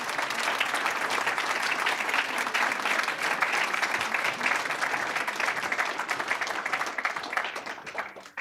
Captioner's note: applause